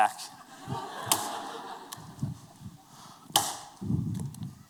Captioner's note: laughter